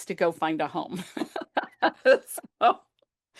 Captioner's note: laughter